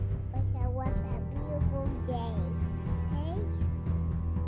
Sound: baby talking

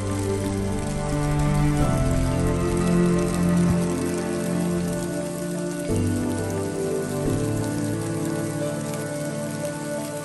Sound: cinematic music; sound of snow falling on the tent

